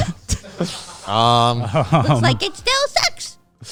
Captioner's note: everyone laughing